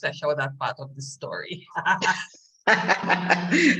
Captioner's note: laughter